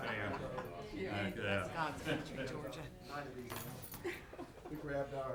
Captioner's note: people chattering